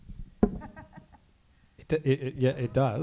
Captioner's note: laughs